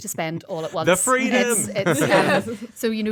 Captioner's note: laughs